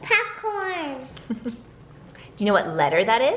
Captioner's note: woman laughs